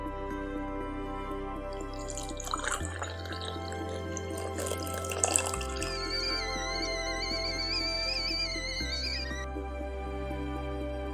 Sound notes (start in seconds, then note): 1.7 coffee flows; 6.5 kettle whistles